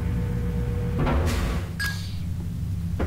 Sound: ding whoosh

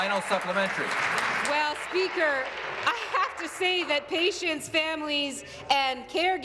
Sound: applause

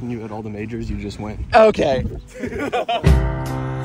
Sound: laughs

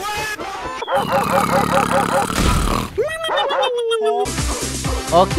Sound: snoring

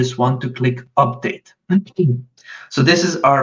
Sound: automated Voice

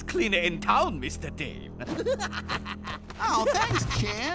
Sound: laughs

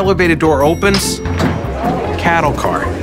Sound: crowd talking

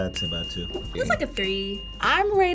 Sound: bell dinging

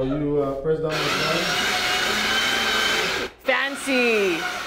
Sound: whirring

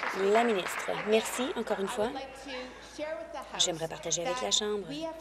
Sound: applause

